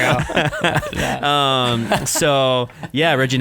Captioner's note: laughing